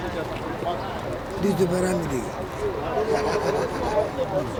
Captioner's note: non-english speech